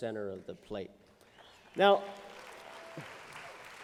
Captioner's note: applause